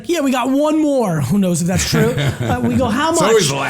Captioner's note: laughs